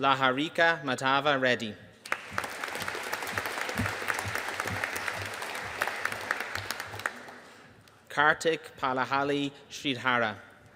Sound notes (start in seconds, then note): 2.0 audience applauding